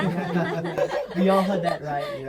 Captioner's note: everybody laughing